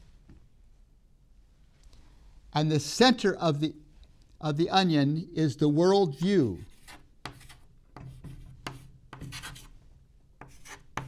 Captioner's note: chalk sounds